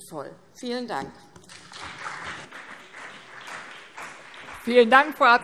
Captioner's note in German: Beifall CDU und BÜNDNIS 90/DIE GRÜNEN